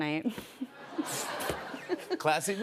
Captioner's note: laughter